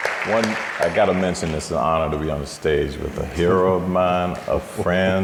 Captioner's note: audience applauding